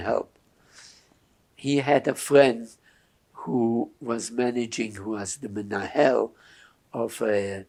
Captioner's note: hebrew